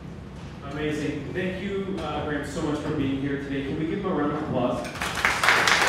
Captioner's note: applause